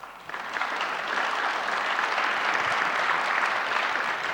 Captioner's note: audience applauding